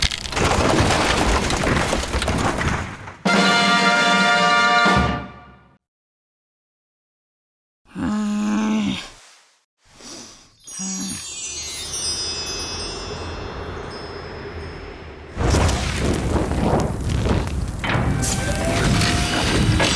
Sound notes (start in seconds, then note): 8.1 snoring; 10.5 chimes; 15.3 fire crackling